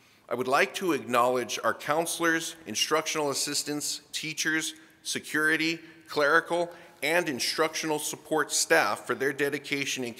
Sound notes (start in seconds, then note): none